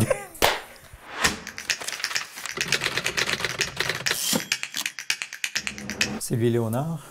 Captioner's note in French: cliquetis de clavier